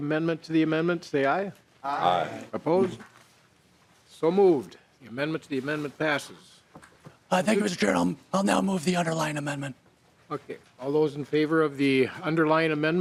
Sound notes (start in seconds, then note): 7.3 chorus of ayes